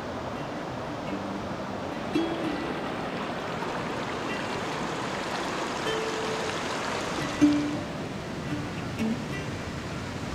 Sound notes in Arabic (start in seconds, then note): 1.4 موسيقى لطيفة; 4.8 تدفق المياه